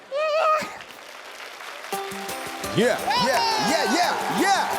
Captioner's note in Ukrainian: оплески